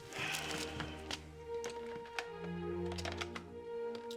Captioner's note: classical music; guy exhales